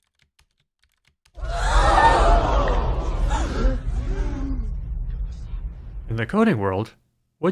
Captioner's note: crowd gasping